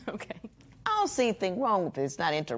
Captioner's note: chuckles